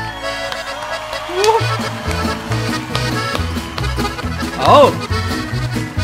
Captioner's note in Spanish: Aplausos